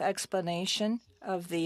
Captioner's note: speaking French